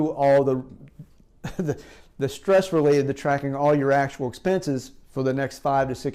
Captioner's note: chuckles